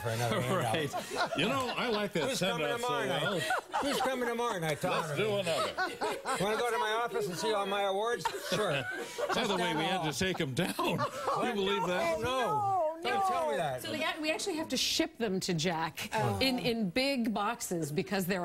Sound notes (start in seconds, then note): 7.2 laughter